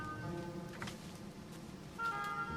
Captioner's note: footsteps